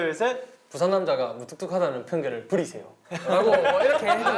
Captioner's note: in Busan dialect